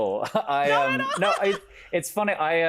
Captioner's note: laughs